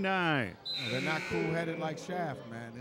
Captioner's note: buzzer buzzes